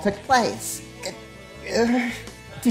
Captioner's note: frustrated groan